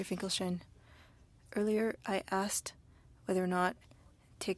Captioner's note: speaking French